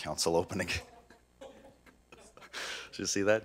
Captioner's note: laughing